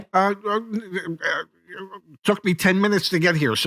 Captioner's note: stammering